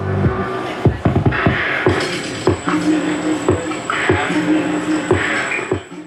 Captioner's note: monsoon sounds over music bed